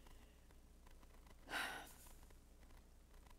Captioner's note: sigh